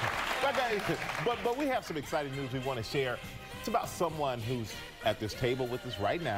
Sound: applause

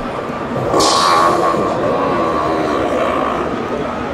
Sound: machine farts

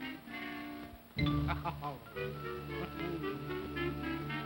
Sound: woman chuckles; ominous whimsical music

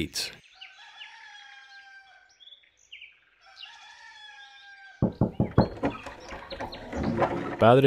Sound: morning sounds. Rooster. Footsteps. Knock at door

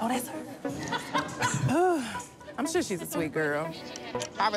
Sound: sighs

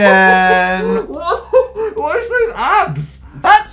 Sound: laughing

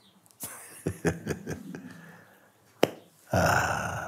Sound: laughs

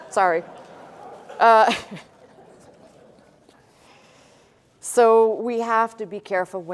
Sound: laughter

